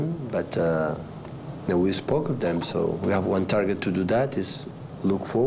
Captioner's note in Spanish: HABLAN EN INGLéS